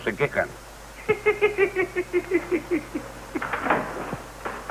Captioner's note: giggling